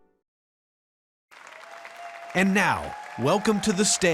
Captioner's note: audience applauds